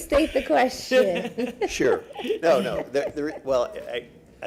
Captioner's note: laughter